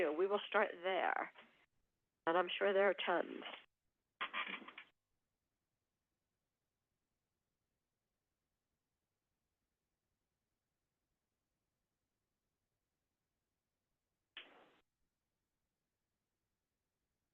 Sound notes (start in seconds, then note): 3.5 silence